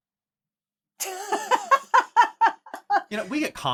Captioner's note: laughing